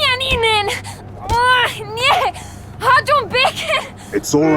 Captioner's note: continues yelling in Hungarian